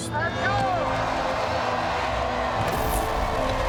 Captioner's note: cheering